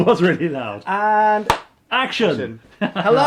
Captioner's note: laughs; lid snapping; laughing